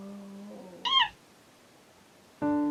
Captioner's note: monkey squeak